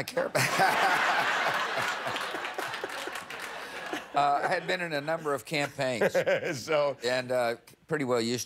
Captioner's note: laughter